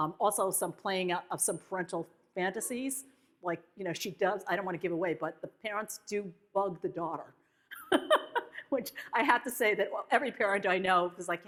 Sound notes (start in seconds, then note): 7.2 laughs